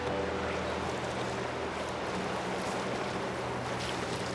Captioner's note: water rushing